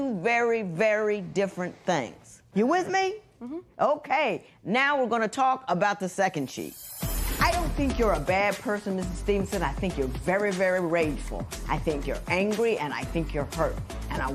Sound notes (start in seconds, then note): none